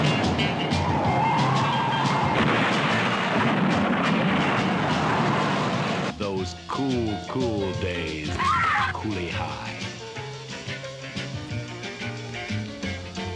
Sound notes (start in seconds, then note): 0.0 tires screeching; 8.4 girl screams; 10.0 playful music